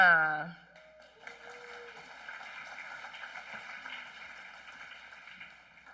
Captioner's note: applause